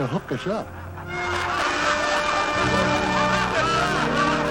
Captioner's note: laughter